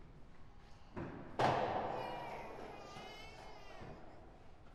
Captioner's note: none